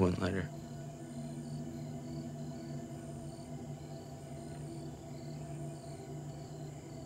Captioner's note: crickets chirping; tense music